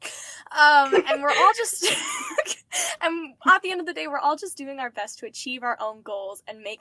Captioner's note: laughter